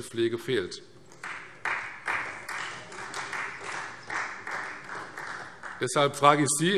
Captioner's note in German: Beifall Freie Demokraten